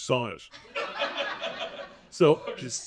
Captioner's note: audience laughing